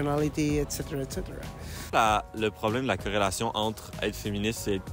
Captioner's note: speaking French